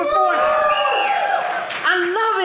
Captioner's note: audience cheering